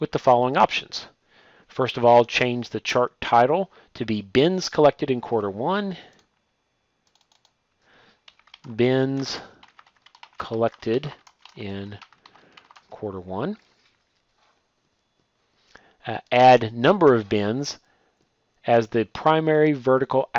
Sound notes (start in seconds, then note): 9.5 typing